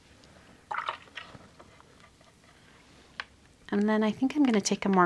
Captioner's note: water gurgles